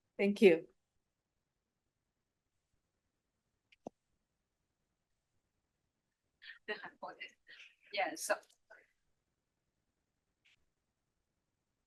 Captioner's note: pause